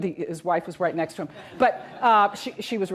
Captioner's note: audience laughs